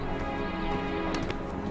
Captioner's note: light slap